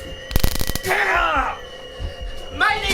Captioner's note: taser noises